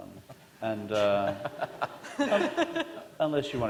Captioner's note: laughter